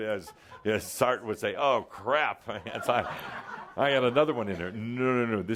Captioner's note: laughter